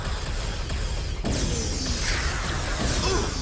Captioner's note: explosion; grunting